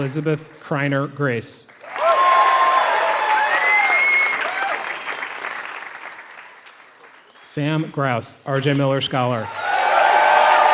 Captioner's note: applause; applause